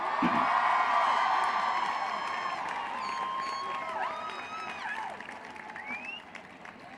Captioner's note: applause